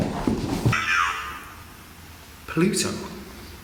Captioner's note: voices over the machine